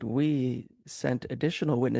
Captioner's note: speaking French